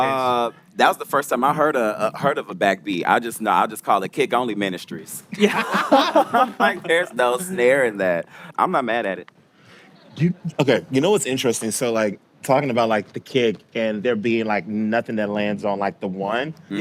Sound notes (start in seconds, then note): 5.4 laughing